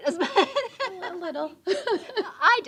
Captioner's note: laughter